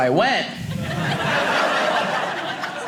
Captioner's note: audience laughing